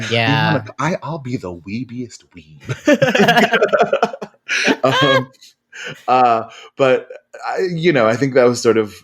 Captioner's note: laughing